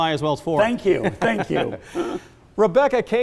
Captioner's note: laughs